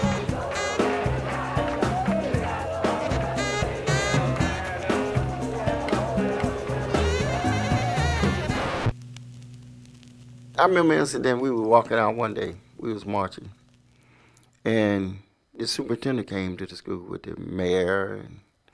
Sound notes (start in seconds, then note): 8.4 record scratch